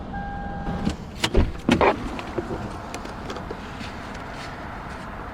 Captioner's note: objects rustling